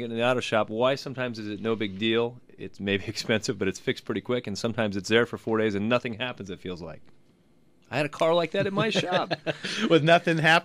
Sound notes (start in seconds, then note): 8.4 laughs